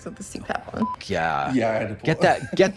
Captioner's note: beep